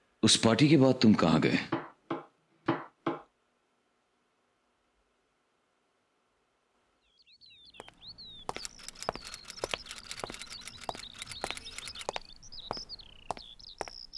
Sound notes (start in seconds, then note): 8.4 Footsteps